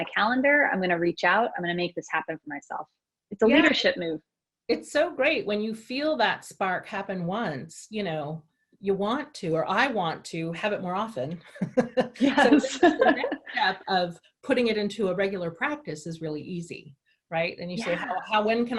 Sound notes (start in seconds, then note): 11.5 laughter